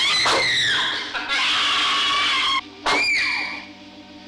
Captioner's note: Trudy screams